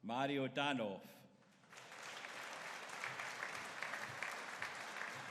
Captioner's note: audience applauding